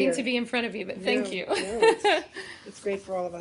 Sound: laughter

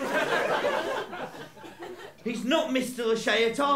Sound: laughter

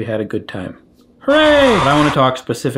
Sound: people cheering

